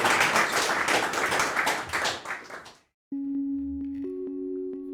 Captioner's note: audience applauding; calm music